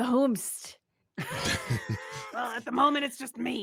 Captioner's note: laughs